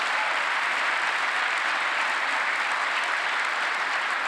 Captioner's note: applause